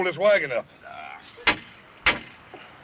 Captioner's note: groans